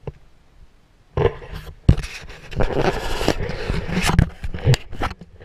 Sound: GoPro's HINGE GRINDING

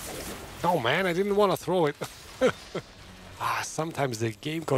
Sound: laughs

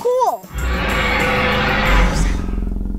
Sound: dinosaur roaring

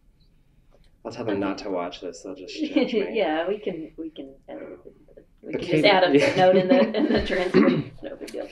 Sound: laughter

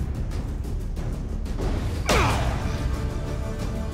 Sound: grunt

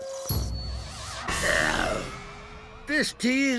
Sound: groaning

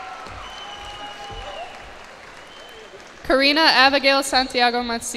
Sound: cheers and applause

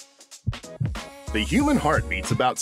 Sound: heart beating

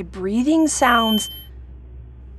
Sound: ears ringing

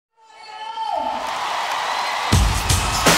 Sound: crowd cheering

